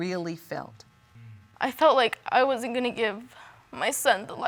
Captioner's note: voice breaking